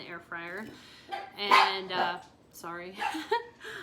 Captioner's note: dog barking